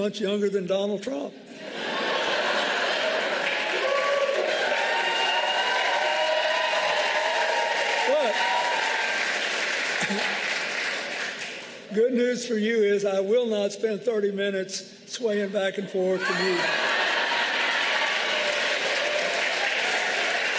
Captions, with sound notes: >> I DON'T HAVE ANY MORE ELECTIONS I'LL BE INVOLVED WITH, AND I AM TOO OLD TO GUILD THE LILLY. HECK, I'M ONLY TWO MONTHS HECK, I'M ONLY TWO MONTHS YOUNGER THAN DONALD TRUMP. [ APPLAUSE ] BUT GOOD NEWS FOR YOU, I WILL